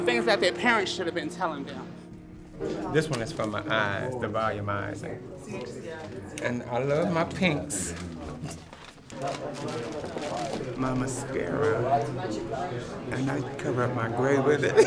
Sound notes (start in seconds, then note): 9.0 bag crinkles